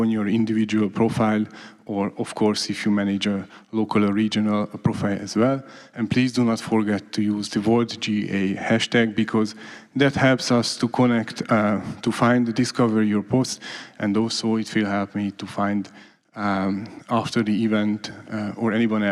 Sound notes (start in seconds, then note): none